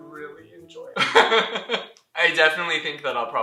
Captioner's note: laughter